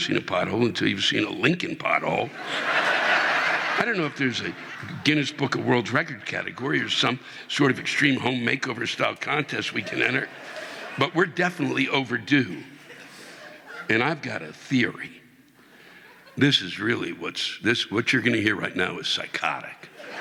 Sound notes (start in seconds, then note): 6.2 audience laughing